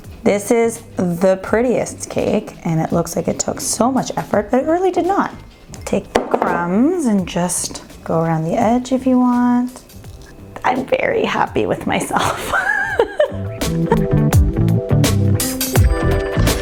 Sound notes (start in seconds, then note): 12.1 laughing; 13.9 upbeat music